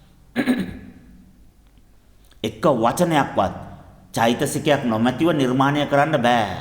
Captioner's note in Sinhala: උගුර කෑරීම